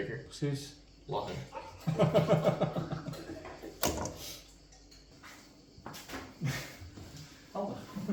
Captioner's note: dutch chatter; laughter; dutch chatter